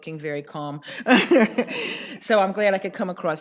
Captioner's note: laughs